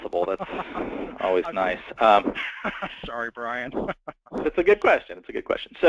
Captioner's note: laugh